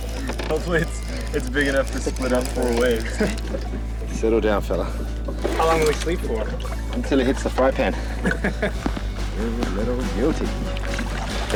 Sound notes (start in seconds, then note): 7.2 laughing